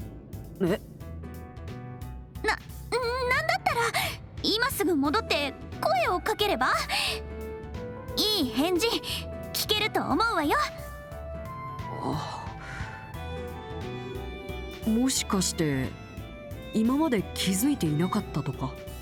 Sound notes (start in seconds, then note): 12.0 sigh